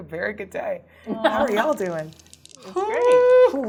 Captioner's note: laughing